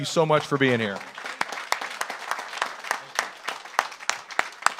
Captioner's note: audience applauds